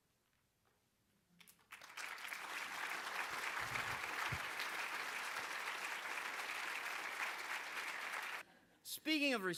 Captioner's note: applause